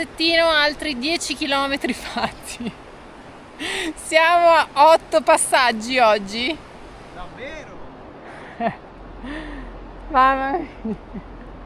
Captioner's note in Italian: risate